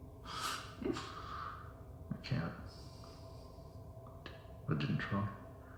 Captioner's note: chuckles